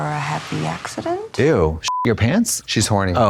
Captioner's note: beep